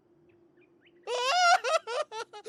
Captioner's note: crying